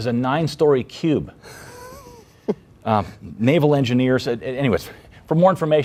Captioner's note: laughing